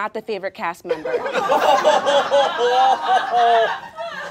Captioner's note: all laughing